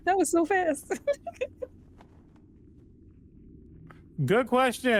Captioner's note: laughing